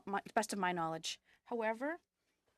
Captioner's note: speaking French